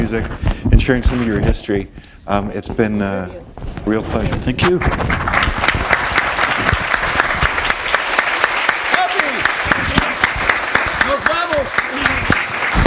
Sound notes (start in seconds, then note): 5.2 applause